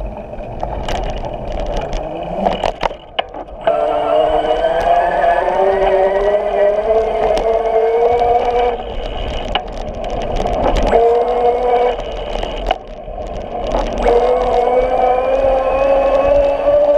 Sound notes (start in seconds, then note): 3.6 motor whirring